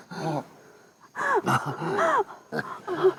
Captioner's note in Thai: เสียงตกใจ